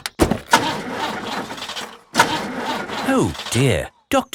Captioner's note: engine sputtering